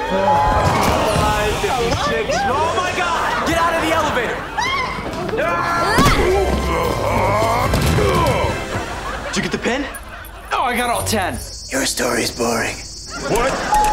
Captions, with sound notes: - Oh, my God! - Get out of the elevator! [screaming] [grunting] Did you get the pin? Oh, I got all 10. Your story's boring. What?